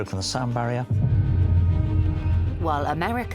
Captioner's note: frequency booming